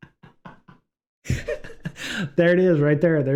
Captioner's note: laughter